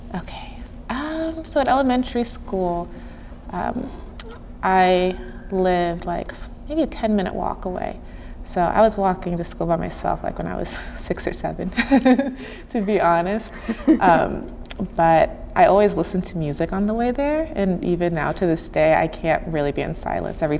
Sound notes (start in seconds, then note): 11.7 chuckling